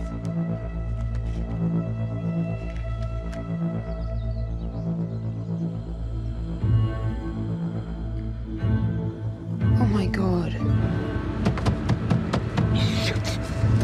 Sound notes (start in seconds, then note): 0.0 pages rustle; 0.2 intense dramatic music continues; 11.4 banging on car